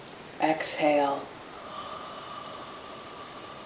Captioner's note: exhales